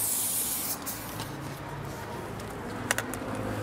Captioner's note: heavy traffic noise